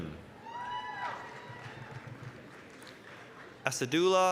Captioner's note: applause, cheering